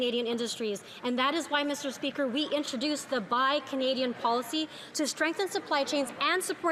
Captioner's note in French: voix de l'interprète